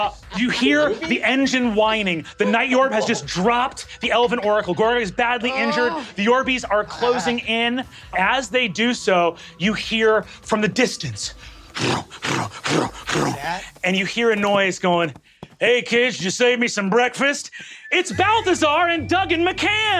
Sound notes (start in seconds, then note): 11.6 mimics hooves clopping